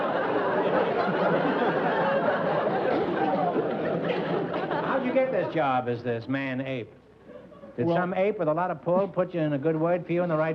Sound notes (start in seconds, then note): 0.0 laughter